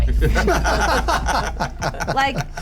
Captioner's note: laugh